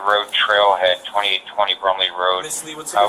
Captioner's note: radio chatter